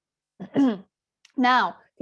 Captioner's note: clears throat